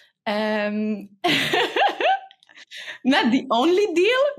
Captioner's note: person laughing